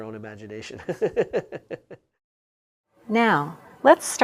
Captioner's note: laugh